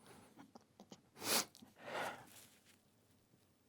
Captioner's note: sniffling; pause